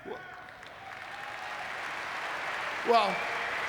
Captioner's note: audience clapping